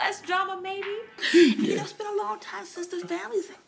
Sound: laughing

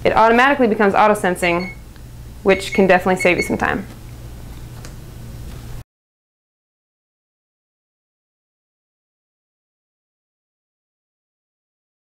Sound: beeps

